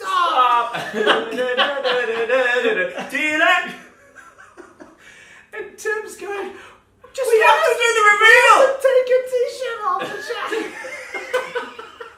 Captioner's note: laughing; singing